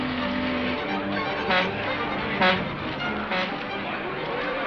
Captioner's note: horn honking